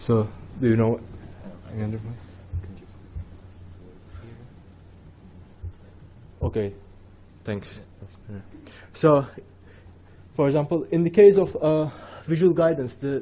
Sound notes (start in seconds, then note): 2.1 whispering